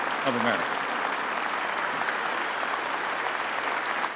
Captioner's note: applause